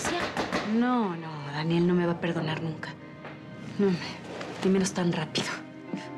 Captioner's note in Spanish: toques en la puerta